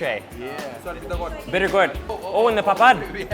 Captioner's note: murmurs